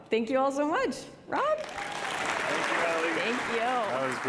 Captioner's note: applause